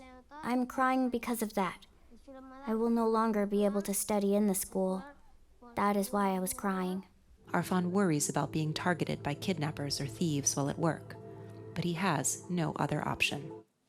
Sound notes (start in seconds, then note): none